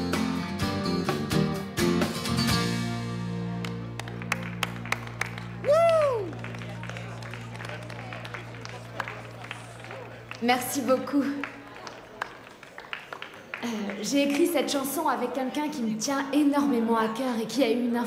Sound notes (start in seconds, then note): 4.5 clapping; 7.2 weak clapping